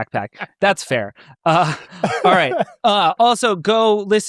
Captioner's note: laughs